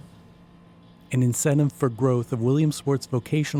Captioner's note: voiceover